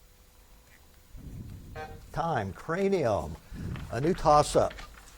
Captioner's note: buzzer buzzes